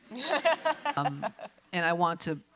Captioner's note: laughs